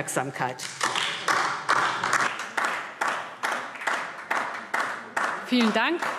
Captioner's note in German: Beifall DIE LINKE